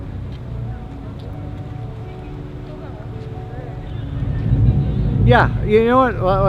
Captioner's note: people chattering indistinctly